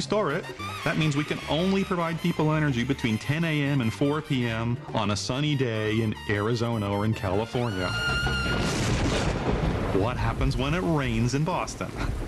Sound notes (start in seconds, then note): 8.2 thunder